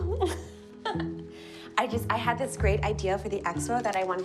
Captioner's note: laughing